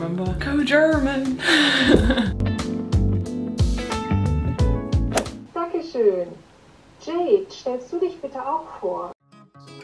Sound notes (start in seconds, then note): 1.5 chuckling; 2.0 upbeat music; 6.1 computer voiceover speaking in foreign language; 9.5 upbeat music